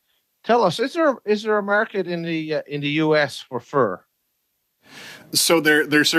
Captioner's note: speaking French